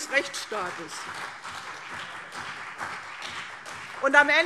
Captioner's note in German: Beifall CDU und BÜNDNIS 90/DIE GRÜNEN - Zurufe SPD